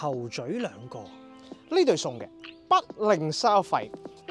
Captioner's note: local accent